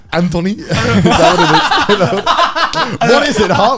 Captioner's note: both laughing